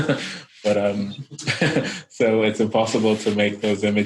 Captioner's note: laughs